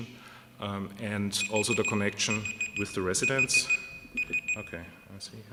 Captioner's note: beeping sound